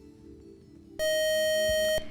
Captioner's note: buzzer